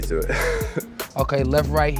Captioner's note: chuckles